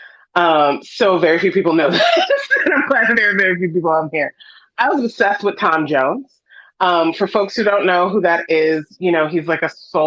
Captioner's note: laughs